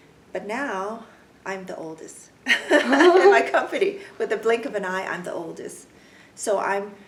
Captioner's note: laugh